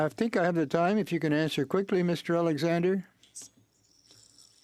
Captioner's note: speaking French